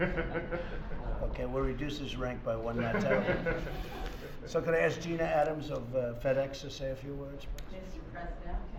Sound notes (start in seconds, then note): 2.8 laughter